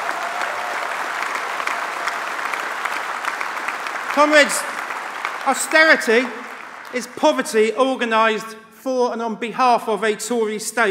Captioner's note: applause